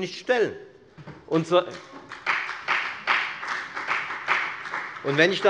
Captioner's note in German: Beifall bei der FDP